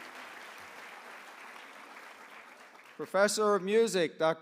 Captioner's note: applause